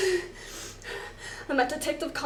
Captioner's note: heavy breathing